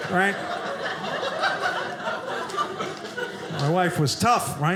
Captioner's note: audience laughing